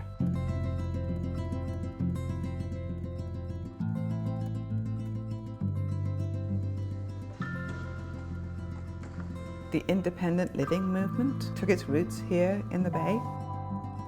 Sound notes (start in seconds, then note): 7.3 whoosh of wheels hitting floor